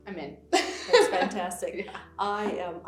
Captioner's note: laughs